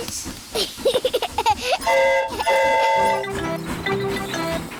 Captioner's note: giggles; train horn toots